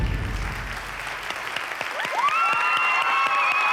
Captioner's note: cheering and applause